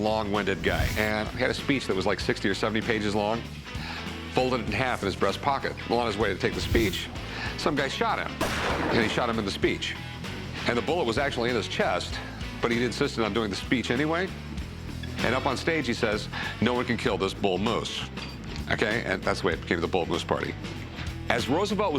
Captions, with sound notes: and he had a speech that was like 60 or 70 pages long, folded in half in his breast pocket. Well, on his way to take the speech, some guy shot him. [gunshot] And he shot him in the speech, and the bullet was actually in his chest. But he insisted on doing the speech anyway. And up on stage he says, "No one can kill this bull moose." OK, and that's the way it gave the Bull Moose Party. As Roosevelt was giving the speech,